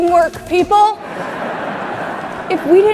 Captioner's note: audience laughing